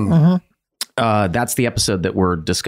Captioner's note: Glenn clicks tongue